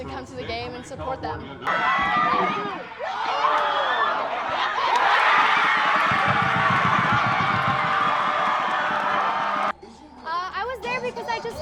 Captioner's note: applause and cheering